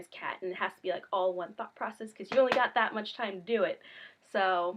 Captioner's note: slap slap